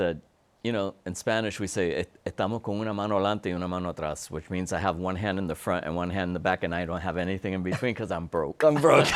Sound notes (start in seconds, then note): 3.3 speaks Spanish